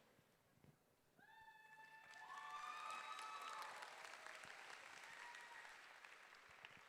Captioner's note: audience clapping and cheering